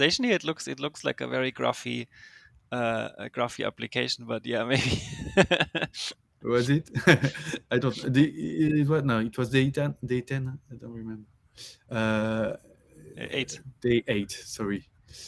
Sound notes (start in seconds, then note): 4.8 laughs